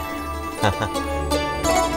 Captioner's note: Laughs